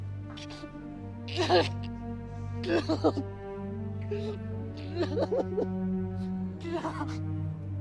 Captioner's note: heartbreaking sobs